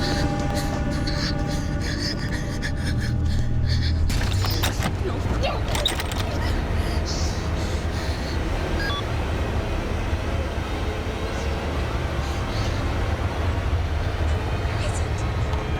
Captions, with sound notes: No. No. [BEEPING] Where is it?